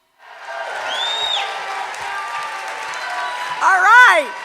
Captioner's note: cheers and applause